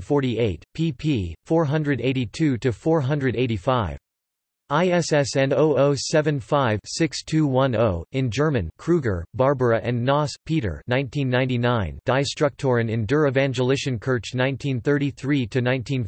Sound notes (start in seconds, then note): 6.2 in German